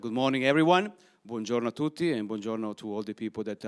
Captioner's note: speaking in foreign language